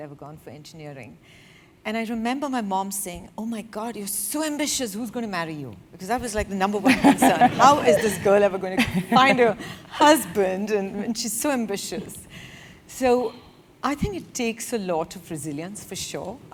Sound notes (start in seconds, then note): 6.8 laugh